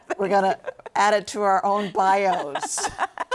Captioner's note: laughing